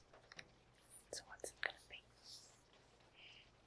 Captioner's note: whispers